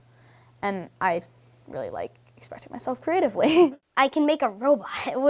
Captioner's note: laughs